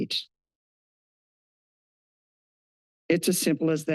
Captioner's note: pause